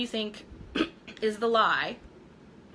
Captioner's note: coughing